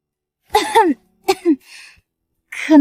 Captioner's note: cough cough